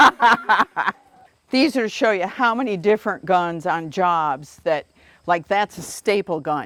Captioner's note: laughter